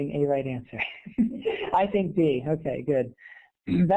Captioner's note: laughs